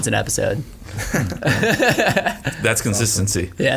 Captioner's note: laughing